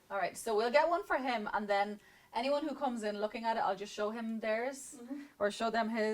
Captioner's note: none